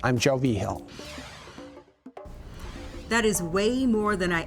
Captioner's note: air whooshes